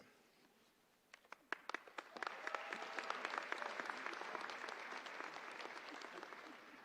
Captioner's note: applause